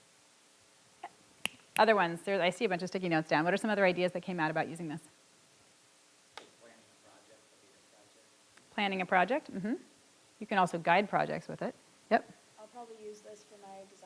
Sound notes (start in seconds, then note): 1.4 snaps fingers